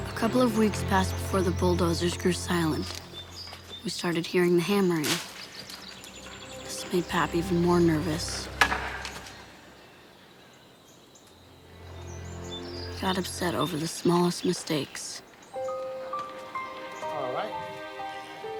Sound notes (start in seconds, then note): 8.5 wood bangs and echoes